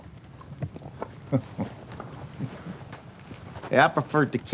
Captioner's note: chuckles